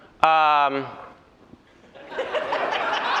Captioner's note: laughter